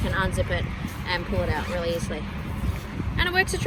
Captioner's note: zipper zips